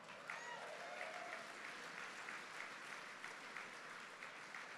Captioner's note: applause